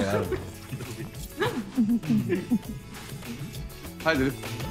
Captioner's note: Ana giggling